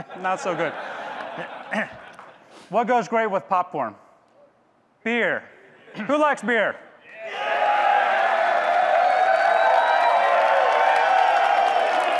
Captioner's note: audience clapping, cheering